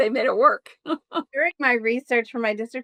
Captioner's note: chuckles